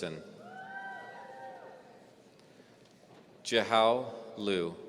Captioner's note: audience cheering